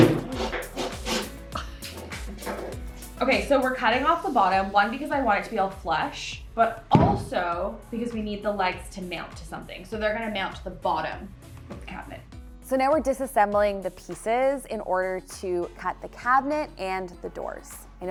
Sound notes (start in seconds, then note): 0.0 can thumps; 0.2 scoffs